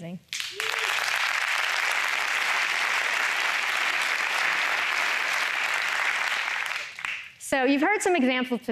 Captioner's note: applause